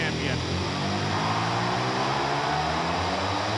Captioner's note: car revving